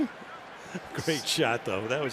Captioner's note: laughter